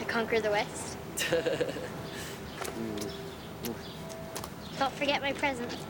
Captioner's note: Rene chuckles